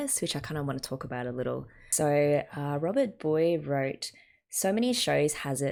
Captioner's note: none